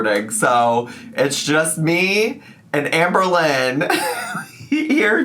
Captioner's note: laughs